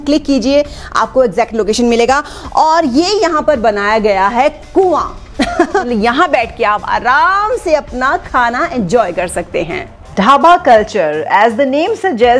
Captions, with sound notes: click it and get the exact location of Dhaba Kulture. And here's the setup of a Well. (giggles) Sit here and enjoy your meal. Dhaba Kulture - as the name suggests...